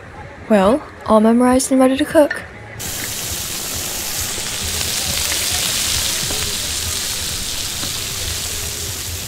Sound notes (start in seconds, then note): 2.8 hot dogs sizzling